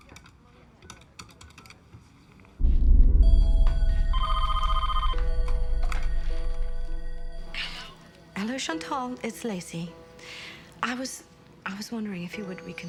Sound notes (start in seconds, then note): 4.0 phone ringing